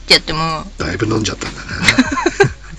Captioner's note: laughs